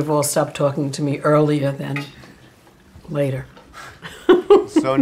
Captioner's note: chuckling